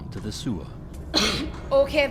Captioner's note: sewer drips and echoes